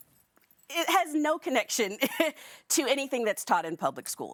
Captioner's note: laughing